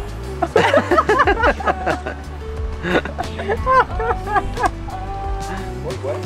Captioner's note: laughter